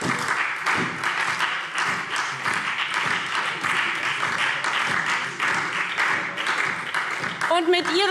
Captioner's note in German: Beifall SPD